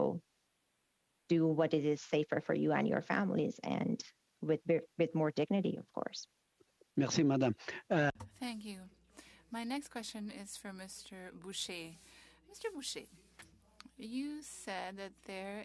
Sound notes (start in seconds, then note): 11.4 speaking French